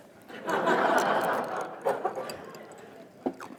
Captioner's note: laughter